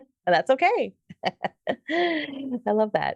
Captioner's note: laughing